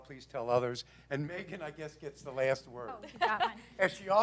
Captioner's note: laugh